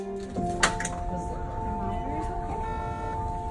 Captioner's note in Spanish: conversación en el fondo